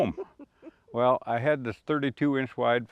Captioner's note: chuckles